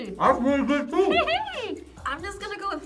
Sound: laughing

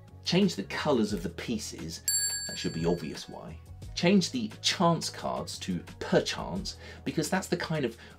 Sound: ding!

